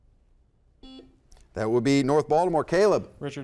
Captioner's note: buzzer beeps